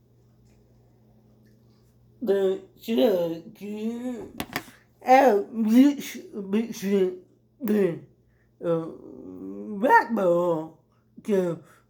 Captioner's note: groans